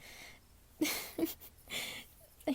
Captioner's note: giggles